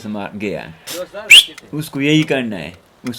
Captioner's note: whistles